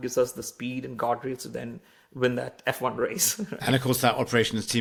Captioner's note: laughs